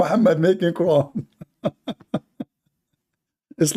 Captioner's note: Ketawa